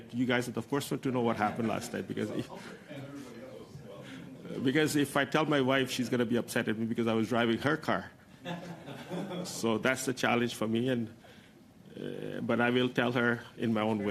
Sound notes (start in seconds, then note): 8.4 laughter